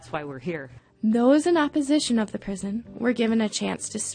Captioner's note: voiceover